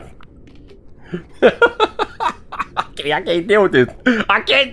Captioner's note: laughing